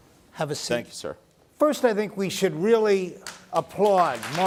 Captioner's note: applause